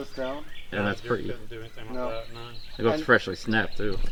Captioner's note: indistinct chattering